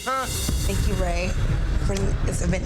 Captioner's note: people chattering